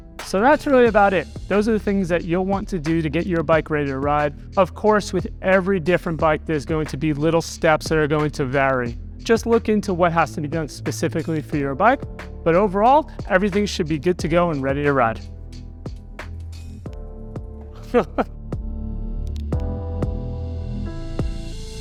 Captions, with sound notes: So that's really about it. Those are the things that you'll want to do to get your bike ready to ride. Of course, with every different bike, there's going to be little steps that are going to vary. Just look into what has to be done specifically for your bike. But overall, everything should be good to go and ready to ride. (laughs) (moderate music)